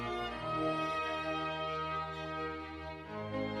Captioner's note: none